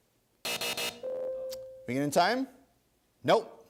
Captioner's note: three buzzes; ding